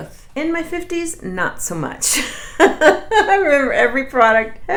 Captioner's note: laughs